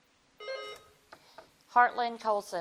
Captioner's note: bell dings